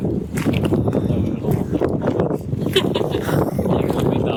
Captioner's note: laughter